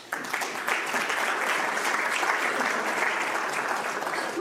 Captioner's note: audience applauds